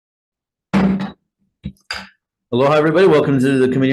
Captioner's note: gavel knocks